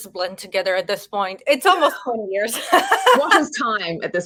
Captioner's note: both laugh